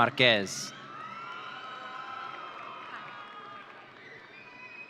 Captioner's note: audience cheering